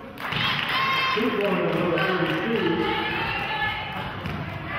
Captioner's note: clapping